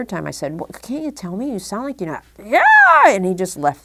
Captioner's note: scream noise